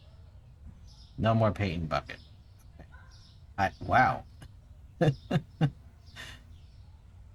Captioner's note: laughs at how clean it is